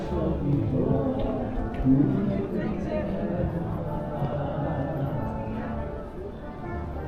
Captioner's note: people chattering